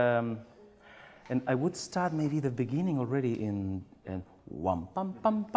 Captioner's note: hums